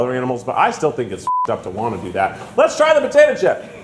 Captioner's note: beep